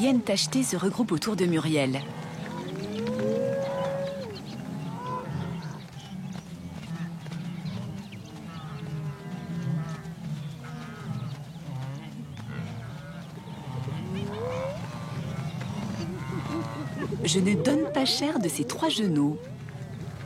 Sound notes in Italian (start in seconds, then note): 12.3 versi di animali